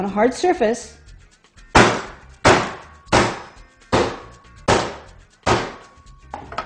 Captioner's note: sound of hammer smacking loudly